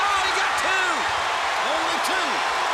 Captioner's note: crowd cheering